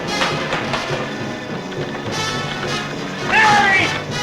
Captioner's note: buzzing